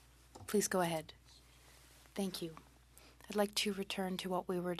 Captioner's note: speaking French